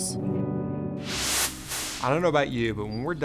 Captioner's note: logo whooshes